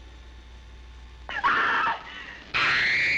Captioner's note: screaming